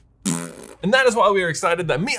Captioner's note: fart sound plays